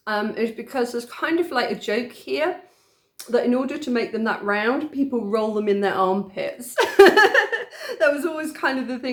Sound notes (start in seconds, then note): 6.8 laughing